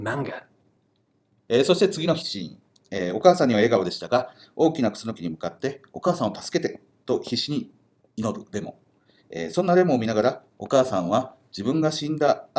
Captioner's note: speaking Japanese